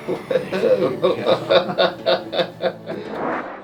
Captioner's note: laughing